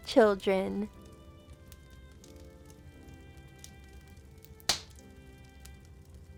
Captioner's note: gentle instrumental music; fire crackling